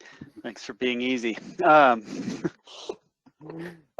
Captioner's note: chuckles